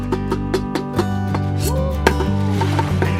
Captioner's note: howling